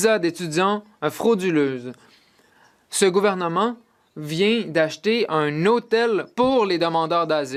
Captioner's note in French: voix de l'interprète